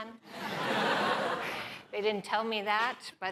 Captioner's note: laughter